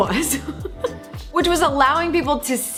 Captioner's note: laughs